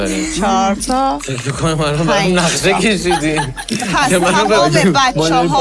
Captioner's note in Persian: خنده